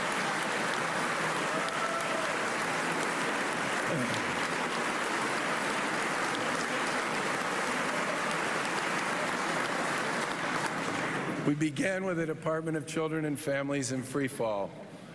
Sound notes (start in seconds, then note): 5.7 applause